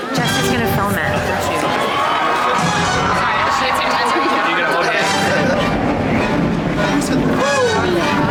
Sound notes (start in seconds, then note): 0.2 dramatic music; 1.0 audience cheering; 2.1 dramatic music